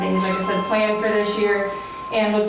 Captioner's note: ringing